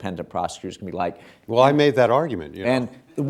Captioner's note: chuckles